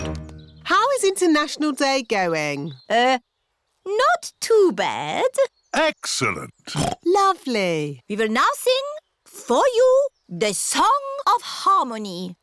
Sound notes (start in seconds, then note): 6.7 oinks